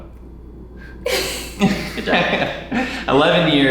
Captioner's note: laughs